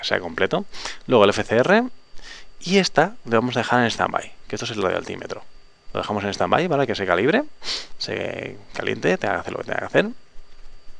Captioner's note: radio altimeter